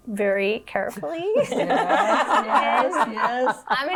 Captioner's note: laughing